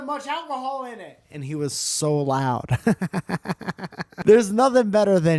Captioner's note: giggle